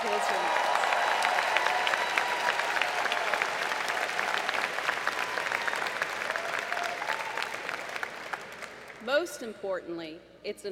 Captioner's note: applause